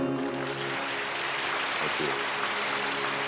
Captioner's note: audience applauding